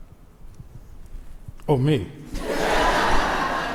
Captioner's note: crowd laughs